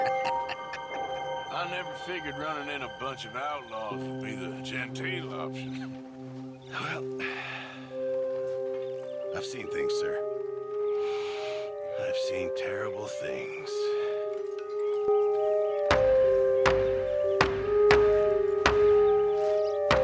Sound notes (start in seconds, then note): 0.0 laughs; 0.0 chuckles; 7.0 sighs; 11.0 inhales; 15.0 music intensifies